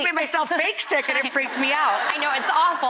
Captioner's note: audience laughs